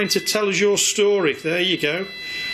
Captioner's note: machine beeping